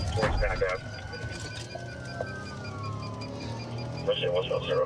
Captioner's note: sirens wailing